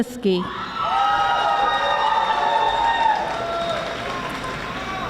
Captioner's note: audience screaming